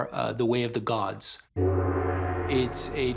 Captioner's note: gong tolls